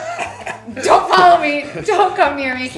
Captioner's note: laughing